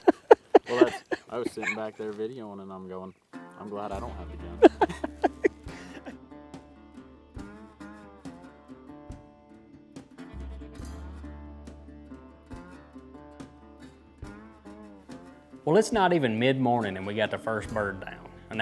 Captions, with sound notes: - Well that's, I was sitting back there videoing and I'm going, I'm glad I don't have the gun (both laughing) (upbeat music playing) - well it's not even mid-morning. And we got the first bird down